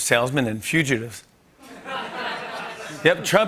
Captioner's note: laughter